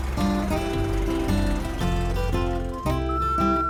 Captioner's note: car engine